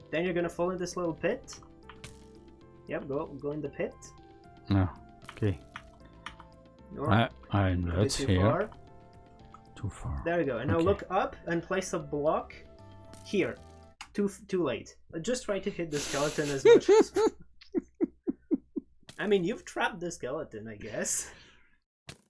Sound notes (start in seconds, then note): 16.3 laughs